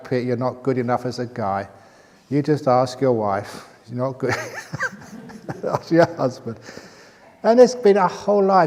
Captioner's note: chuckle